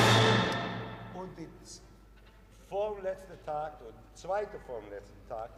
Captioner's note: orchestra stopping; speaking foreign language